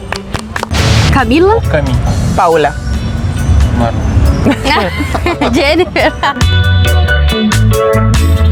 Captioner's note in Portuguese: risos